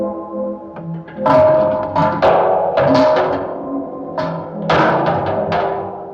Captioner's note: clattering sound